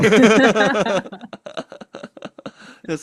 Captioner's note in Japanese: 笑い